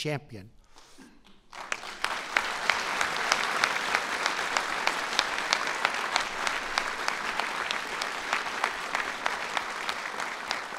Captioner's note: applause